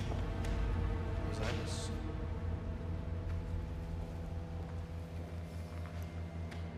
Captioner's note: Russian agents speaking in a foreign language